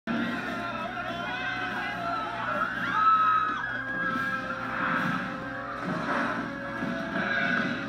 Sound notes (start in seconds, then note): 0.0 screaming